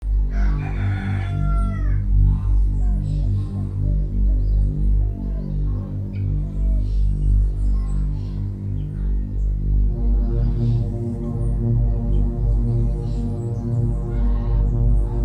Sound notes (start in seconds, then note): 0.2 rooster crows; 2.2 low dramatic music